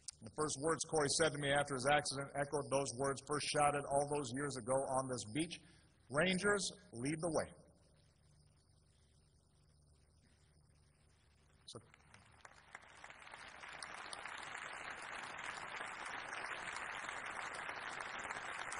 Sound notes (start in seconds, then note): 11.5 applause